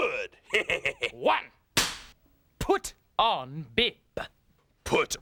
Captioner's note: cracks pointer